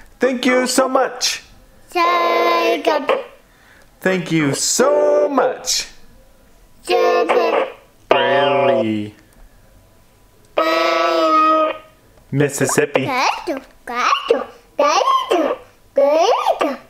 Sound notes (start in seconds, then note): 1.9 Babbles; 6.9 Babbles